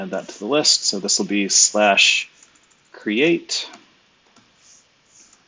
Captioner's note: typing